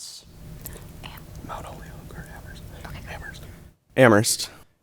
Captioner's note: group whispering